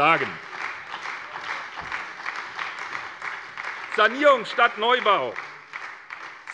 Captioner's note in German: Beifall bei der SPD